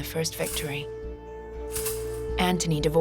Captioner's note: metal rattling